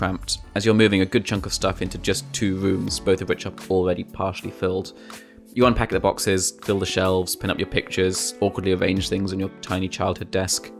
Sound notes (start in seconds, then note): none